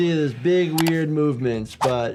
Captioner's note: window clicks out of view; audio whooshes